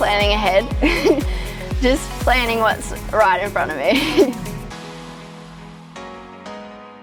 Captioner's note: laughs